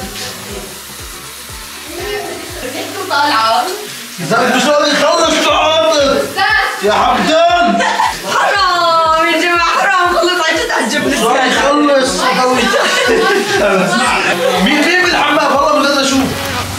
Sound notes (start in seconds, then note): 7.2 laughs